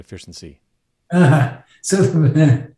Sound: chuckling

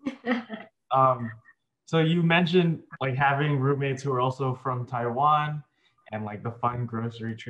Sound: laughs

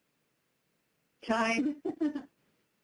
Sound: laughing

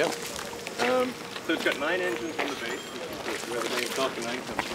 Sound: foot steps

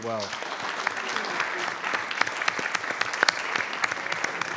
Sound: attendees applauding

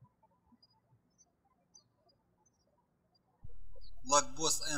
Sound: birds chirping

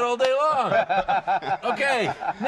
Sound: laughter

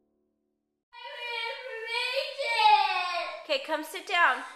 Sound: child crying and wailing

